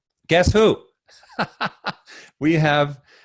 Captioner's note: laughs